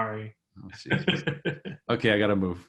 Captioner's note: laughs